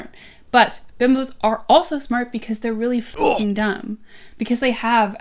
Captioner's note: grunt